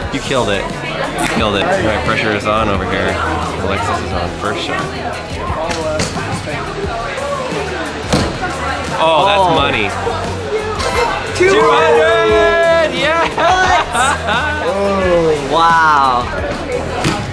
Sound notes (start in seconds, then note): 5.4 crown chattering; 12.6 chuckles